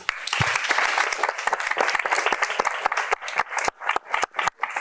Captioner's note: applause